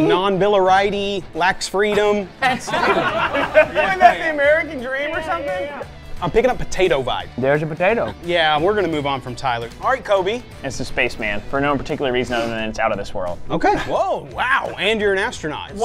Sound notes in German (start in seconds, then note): 2.4 lachen